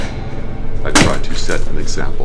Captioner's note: wrench thudding